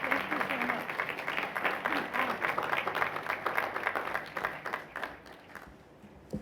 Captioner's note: applause